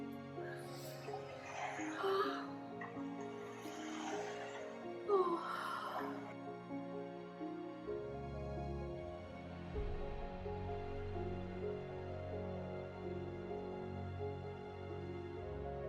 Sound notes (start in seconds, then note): none